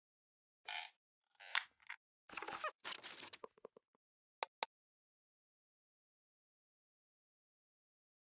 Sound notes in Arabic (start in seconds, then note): 0.0 صرير; 2.5 حفيف; 4.4 نقر